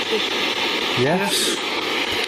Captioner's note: SB7 chattering